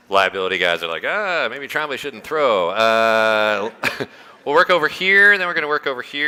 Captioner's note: laughter